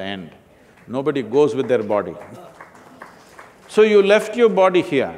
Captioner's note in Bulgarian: Ръкопляскане